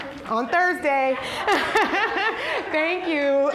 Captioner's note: all laughing